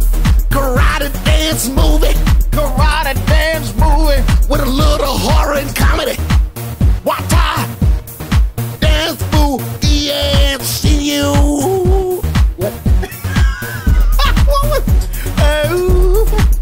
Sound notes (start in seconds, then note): 12.6 laughs